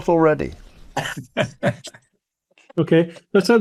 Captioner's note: laughs